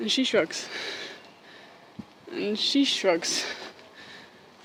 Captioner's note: breathing heavily